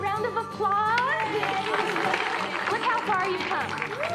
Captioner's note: all cheering